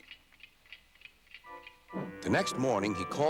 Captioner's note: clock ticks